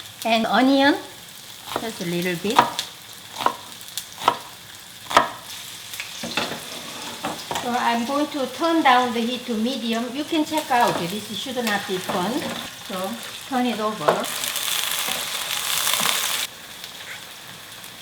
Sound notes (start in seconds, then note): 3.0 knife tapping; 6.0 tofu sizzling; 14.8 tofu sizzling